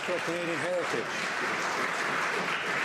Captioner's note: some Applause